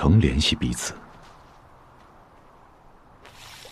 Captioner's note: wind blowing